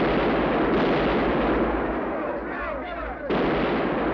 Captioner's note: dynamite booms; men shout; dynamite booms